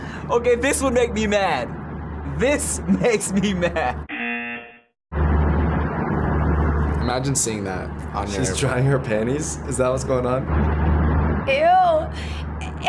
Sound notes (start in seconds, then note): 4.1 buzzer